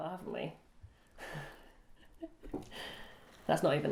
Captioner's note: laughs